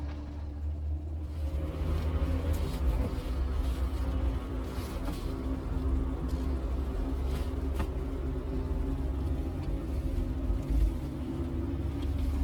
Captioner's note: car approaching